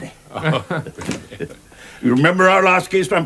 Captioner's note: all chuckle